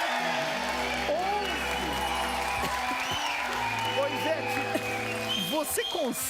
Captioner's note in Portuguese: gargalhadas